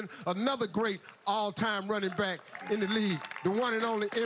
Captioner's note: applause